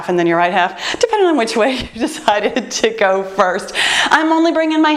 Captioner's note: laughs